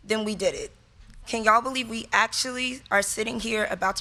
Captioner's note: none